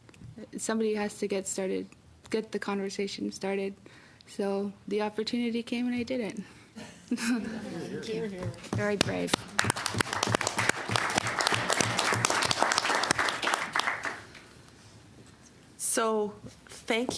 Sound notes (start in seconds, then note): 12.1 applause